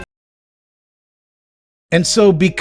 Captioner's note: 2secondssilence